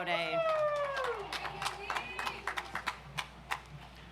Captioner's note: audience applauds